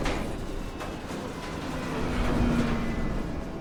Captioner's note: rattling